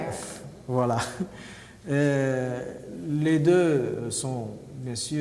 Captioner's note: speaking french